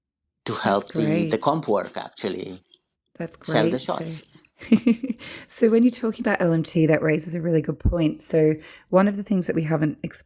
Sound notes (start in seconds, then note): 5.0 laughs